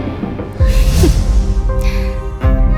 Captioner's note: hmph